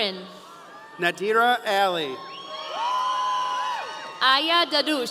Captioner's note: audience cheering